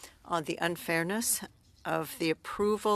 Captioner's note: speaking French